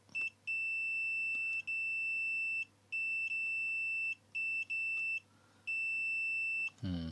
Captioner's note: beeping